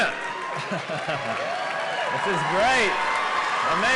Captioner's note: cheering and Applause